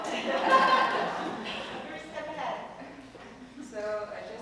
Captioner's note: laugh